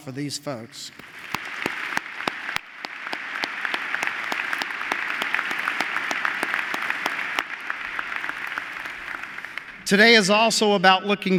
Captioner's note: applause